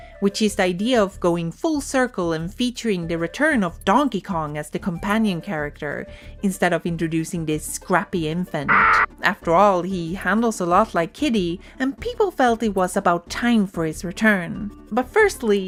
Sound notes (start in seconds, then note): 8.7 kiddy's cry